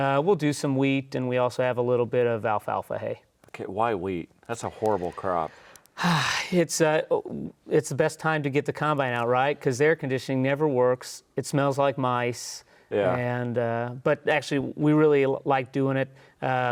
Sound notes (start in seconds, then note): 6.3 sighs